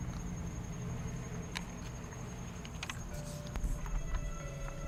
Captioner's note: crickets and frogs can be heard; slow suspenseful music continues